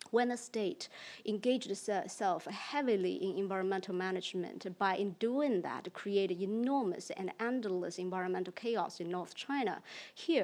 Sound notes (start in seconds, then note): none